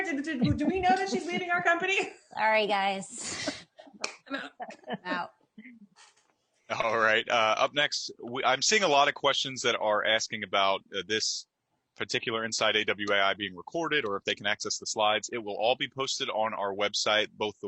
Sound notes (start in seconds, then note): 3.2 chuckling; 4.0 claps